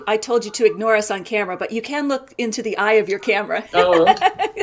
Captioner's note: laughs